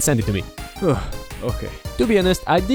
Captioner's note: deep breath